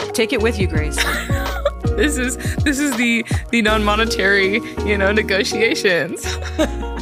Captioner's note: laugh; laugh